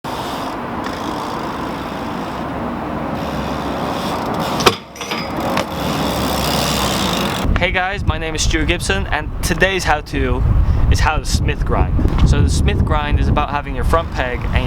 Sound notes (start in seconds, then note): 0.0 bike chain clicking; 4.3 peg clanks; 6.0 bike chain clicking